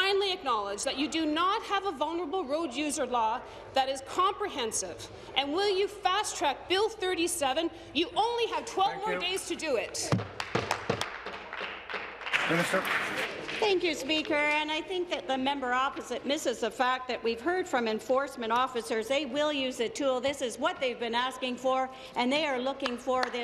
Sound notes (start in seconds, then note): 14.2 applause